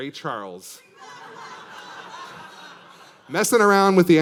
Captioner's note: audience laughing